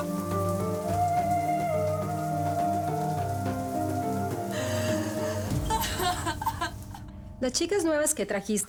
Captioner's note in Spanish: Sollozos